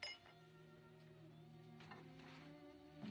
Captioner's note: glass Clinks